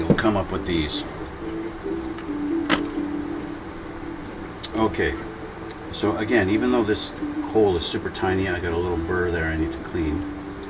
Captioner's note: Burr